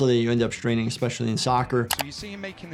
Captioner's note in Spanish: clics del ratón